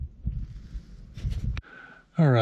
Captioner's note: wind blowing